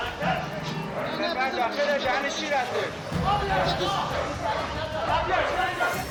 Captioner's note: speaking in foreign language